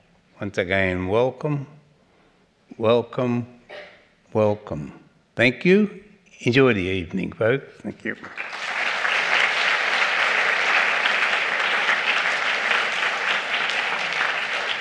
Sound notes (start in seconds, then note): 8.2 applause